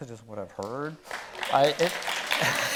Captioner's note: audience clapping; chuckling